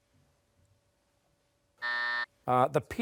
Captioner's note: buzzer